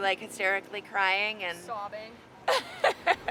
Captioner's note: laughs